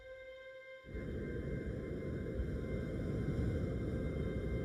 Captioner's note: wind blowing